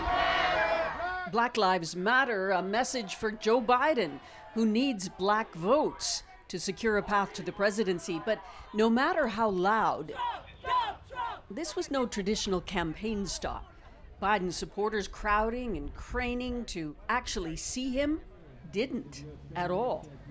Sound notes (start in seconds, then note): 3.2 chanting